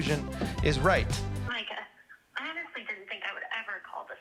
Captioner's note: on voicemail